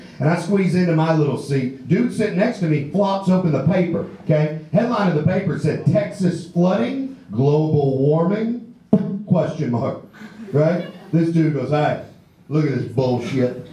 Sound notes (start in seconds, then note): 8.9 pops; 13.5 audience laughs